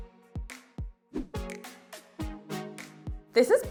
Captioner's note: bright music; screen whooshing